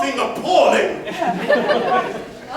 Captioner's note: laughter